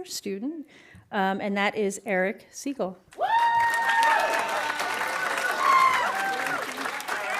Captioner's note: audience applauding